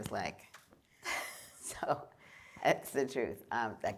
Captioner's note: laughter